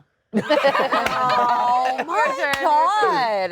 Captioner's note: all laugh